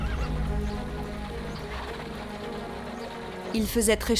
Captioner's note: horse neighing; intense orchestra music